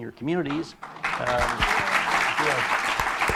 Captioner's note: applause